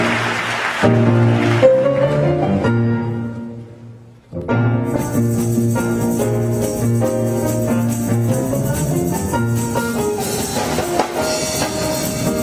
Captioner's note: applause